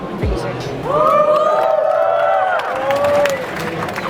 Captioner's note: crowd cheers